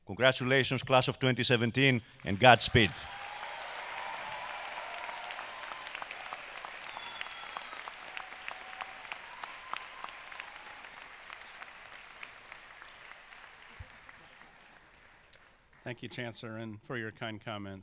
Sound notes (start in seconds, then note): 4.0 cheers and applause